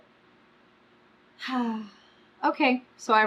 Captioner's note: sighs